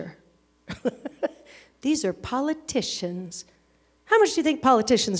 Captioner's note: laughs